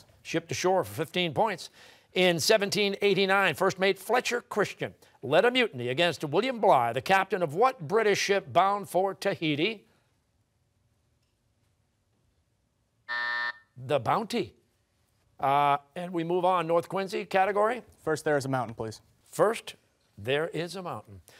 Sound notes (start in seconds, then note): 13.0 buzzer